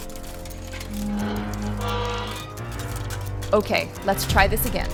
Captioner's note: gentle dramatic music; intense dramatic music; gate squeaks